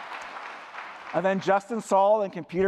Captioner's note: applause